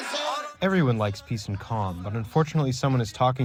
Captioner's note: through translator